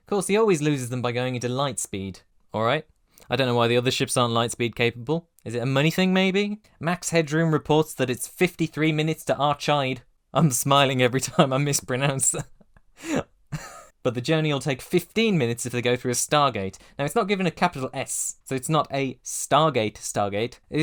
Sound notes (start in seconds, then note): 13.5 laughs